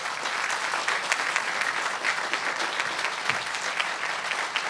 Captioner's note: audience clapping